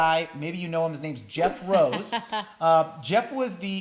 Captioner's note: laughs